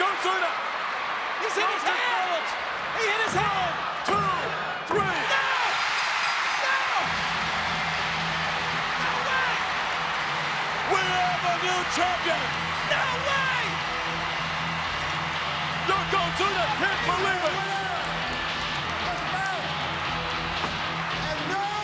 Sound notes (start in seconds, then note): 6.6 audience cheering; 6.6 rock music